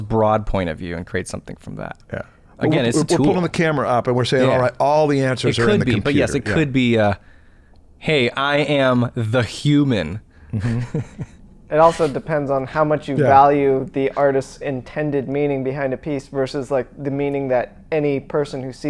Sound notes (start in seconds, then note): 10.5 chuckles